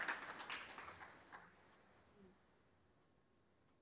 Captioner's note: applause